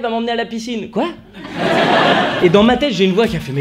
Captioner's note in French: rires